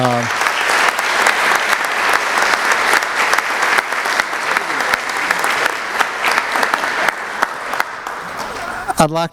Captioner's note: applause